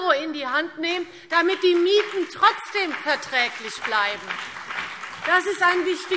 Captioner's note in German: Beifall